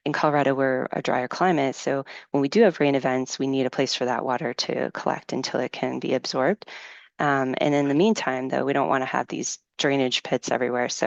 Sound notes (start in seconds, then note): none